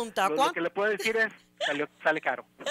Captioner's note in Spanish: Risas